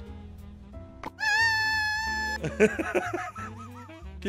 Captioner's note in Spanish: grita muy agudo